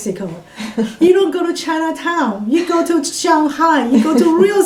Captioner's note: all laugh